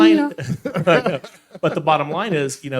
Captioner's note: laughing